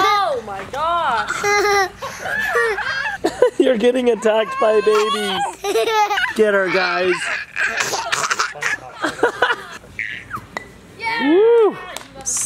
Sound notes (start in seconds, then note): 4.0 laughing; 10.4 block clanking